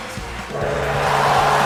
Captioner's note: gong